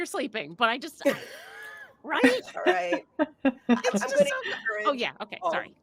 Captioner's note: laughing